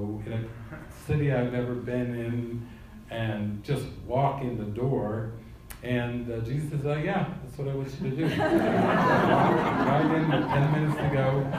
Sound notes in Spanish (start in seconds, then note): 8.1 risas